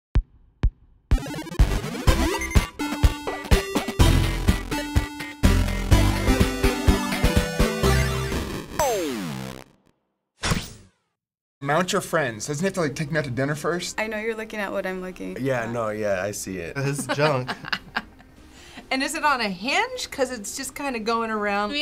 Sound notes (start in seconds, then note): 1.1 old-school video game music; 16.8 laughing